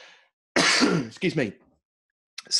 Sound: coughing

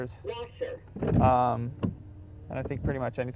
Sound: car voice

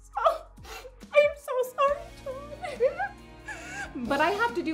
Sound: sniffs

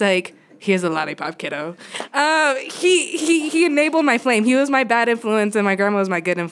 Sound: laughter

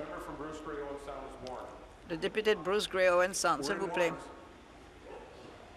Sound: conversation din

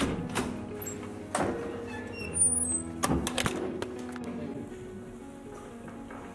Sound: door slams against wall

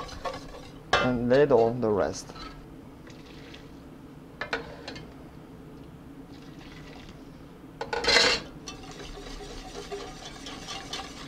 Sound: mixing sounds

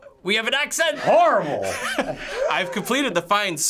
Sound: laughing

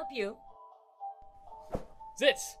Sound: whoosh

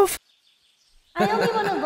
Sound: Sirius & Jupiter's voice echoes in her head

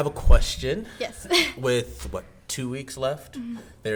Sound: laughs

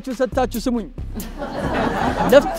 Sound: laughter

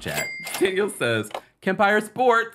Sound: cash register ring

